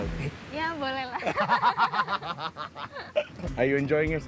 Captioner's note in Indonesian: Ketawa